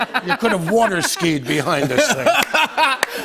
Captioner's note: laughter